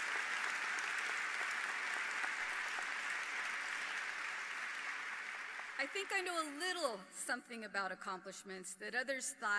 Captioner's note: applause